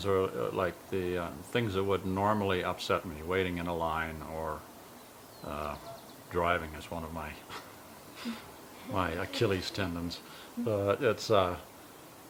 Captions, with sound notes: are like the things that would normally upset me, waiting in a line, or driving is one of my (laughs) achilles tendons.